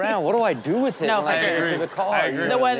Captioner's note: audience laughs